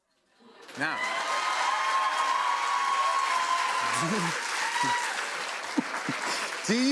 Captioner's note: cheers and applause